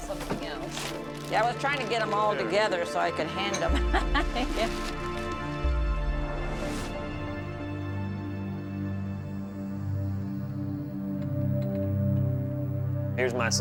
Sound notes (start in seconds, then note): 3.7 laughs